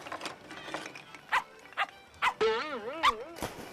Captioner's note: barking